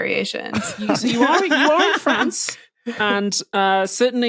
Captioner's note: laugh